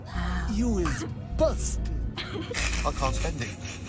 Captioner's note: snickering